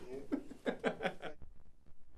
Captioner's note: laughs